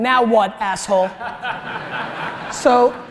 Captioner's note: audience laughter